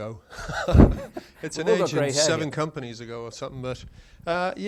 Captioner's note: chuckles